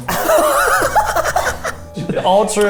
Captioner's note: everyone laughing